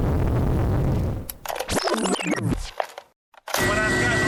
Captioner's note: tape rewind sound